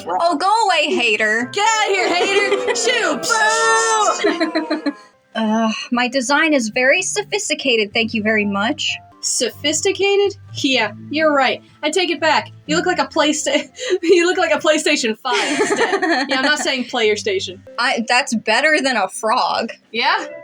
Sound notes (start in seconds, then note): 1.5 laugh; 1.7 crowd Boo'ing; 4.6 laugh; 15.3 laugh